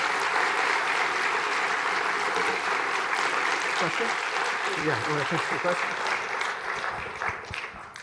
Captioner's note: applause